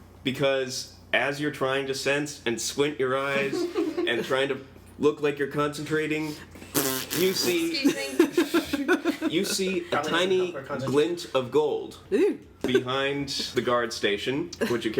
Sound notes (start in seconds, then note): 6.6 thppp